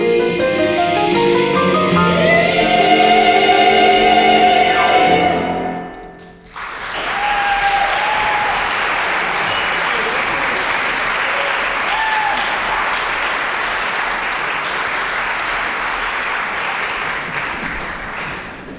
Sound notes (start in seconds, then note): 6.2 applause, cheering; 16.4 applause